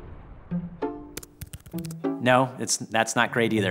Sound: keyboard clicking

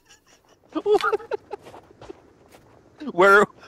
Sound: laughter

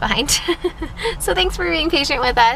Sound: laughs

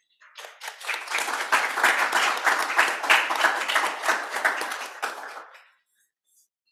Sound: applause

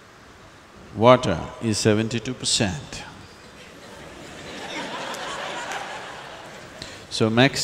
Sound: laughter

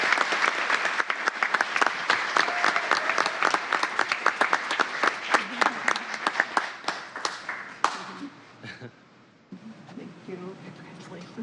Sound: applause

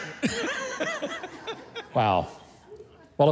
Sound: laughs

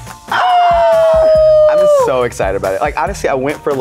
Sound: exclaiming

